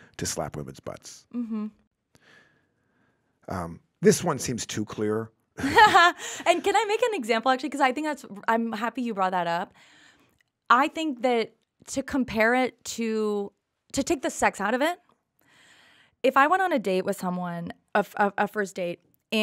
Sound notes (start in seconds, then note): 5.4 Liz laughs